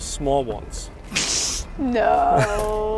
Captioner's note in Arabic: تضحك